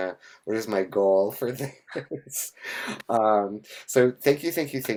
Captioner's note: chuckles